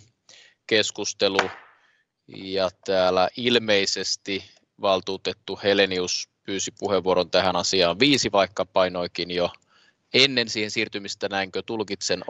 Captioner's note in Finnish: nuijan kopautus